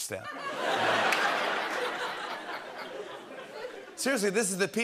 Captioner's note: laughter